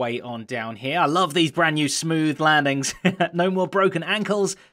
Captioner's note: chuckles